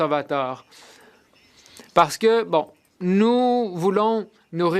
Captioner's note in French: voix de l'interprète